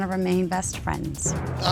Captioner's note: groans